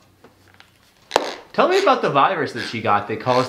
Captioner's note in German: knirscht mit den Zähnen; Becher klopft auf den Tisch